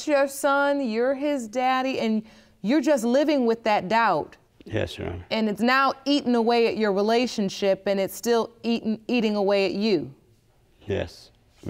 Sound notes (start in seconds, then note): none